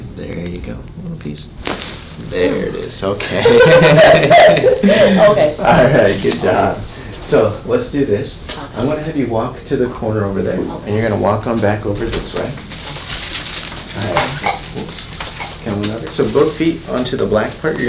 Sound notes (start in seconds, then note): 1.5 bones cracking; 3.3 laughing